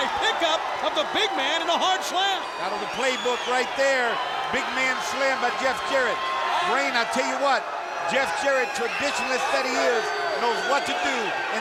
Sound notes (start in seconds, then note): 5.7 Jeff Jarrett exclaiming; 7.5 crowd clamoring